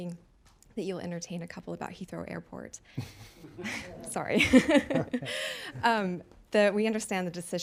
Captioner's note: laughter